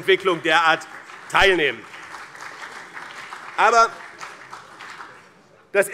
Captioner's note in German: Beifall BÜNDNIS 90/DIE GRÜNEN und CDU